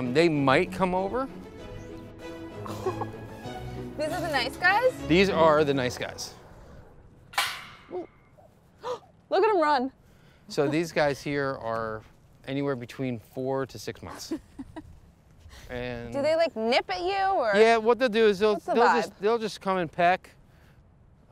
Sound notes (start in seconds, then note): 2.1 string music; 10.0 gasp